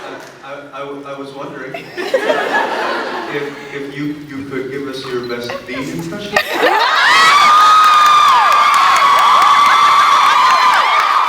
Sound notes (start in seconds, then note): 1.8 scattered laughs; 6.4 laughs, cheers, applauds; 8.4 cheers, applauds